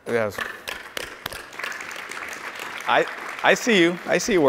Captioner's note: audience applauds